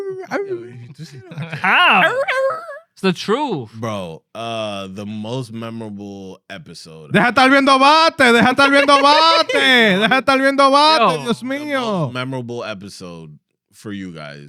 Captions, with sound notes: (Non-english Speech) How? It's the truth. Bro, the most memorable episode-- (Non-english Speech) Memorable episode for you guys.